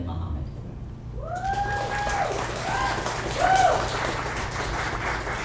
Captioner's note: audience applauds